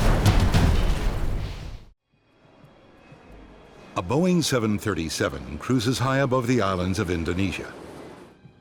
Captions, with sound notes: - [Voiceover] A Boeing 737 cruises high above the island of Indonesia.